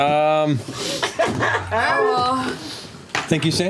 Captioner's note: laughter